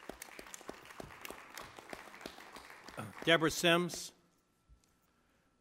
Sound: applause

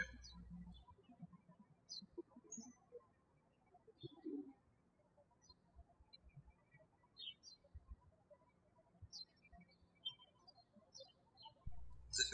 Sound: birds chirping

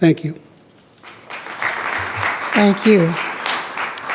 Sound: attendees clapping

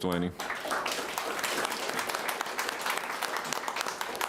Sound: applauding

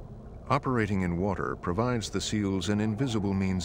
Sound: voiceover

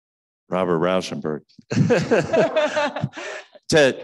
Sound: laughing

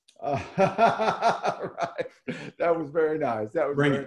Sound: laughs

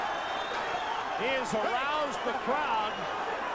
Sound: audience cheers and whistles

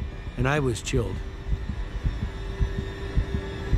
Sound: heart beat thumping

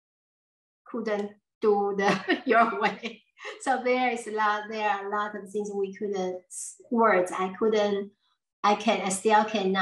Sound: laughs

